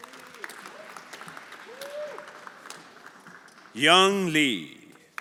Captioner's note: everyone applauding